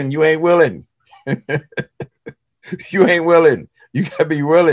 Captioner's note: laughs